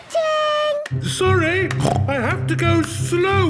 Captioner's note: snorts